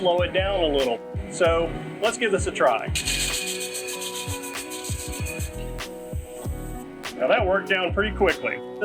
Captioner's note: metallic sounds of disk grinding